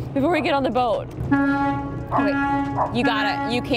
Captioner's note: ship horn blows